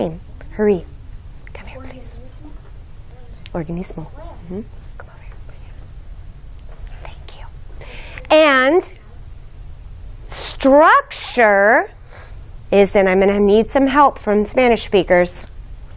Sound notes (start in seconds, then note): 5.5 whispering